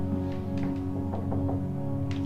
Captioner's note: knock On Door